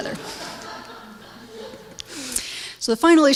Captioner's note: audience laughs